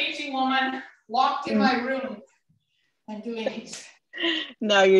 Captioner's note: laughter